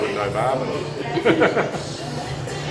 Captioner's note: laughs